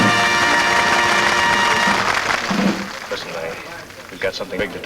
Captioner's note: patrons clap